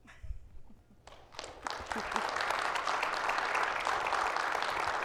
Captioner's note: audience clapping